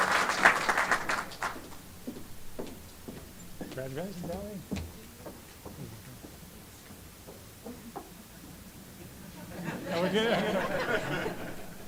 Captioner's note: applause